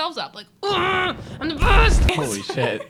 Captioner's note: grunts